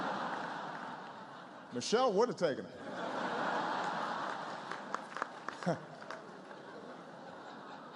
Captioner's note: laughter